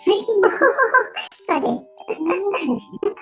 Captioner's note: laughs